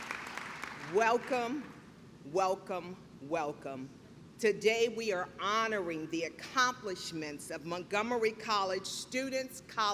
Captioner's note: clapping